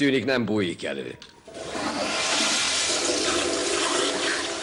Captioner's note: toilet flushes